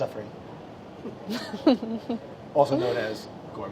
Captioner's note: laughs